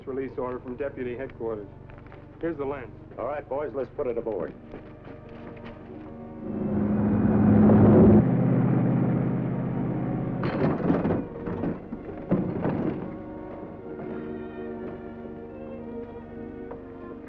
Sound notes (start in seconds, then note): 6.3 car zooming